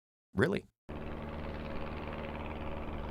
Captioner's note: airplane engine